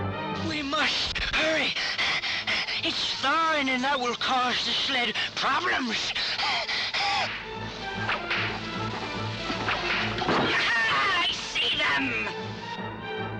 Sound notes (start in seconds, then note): 1.4 panting; 6.9 whip cracking